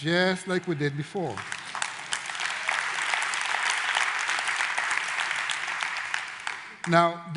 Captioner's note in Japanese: 拍手